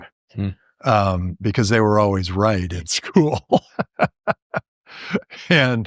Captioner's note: laughter